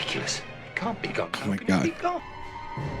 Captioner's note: exasperated